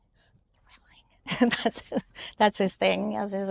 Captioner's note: chuckles